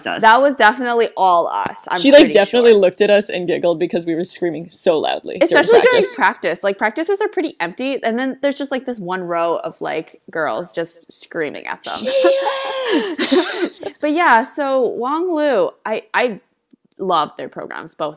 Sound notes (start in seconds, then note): 11.9 pretending to scream